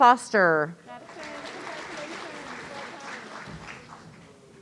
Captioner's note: audience applauding